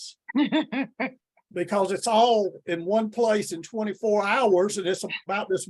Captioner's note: laughs